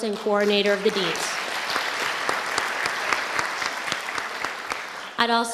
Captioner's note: audience applauding